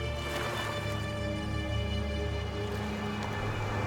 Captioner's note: truck rumbling